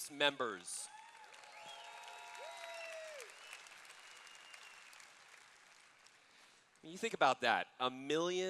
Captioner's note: cheers